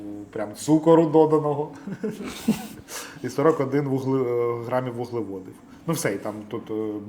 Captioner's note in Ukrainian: сміх